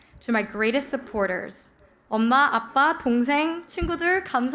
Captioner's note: speaking korean